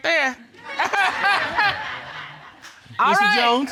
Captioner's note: all laughing